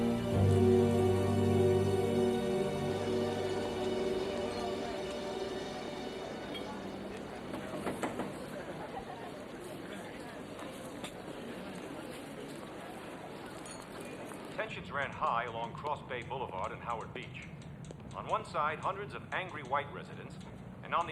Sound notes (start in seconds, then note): 0.0 suspenseful music; 4.5 dishes clinking; 4.5 people chattering; 7.7 window knocking; 8.4 group laughing